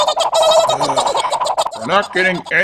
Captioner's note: Horse Guy attack noises; Orca sighs